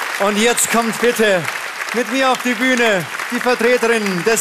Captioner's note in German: Applaus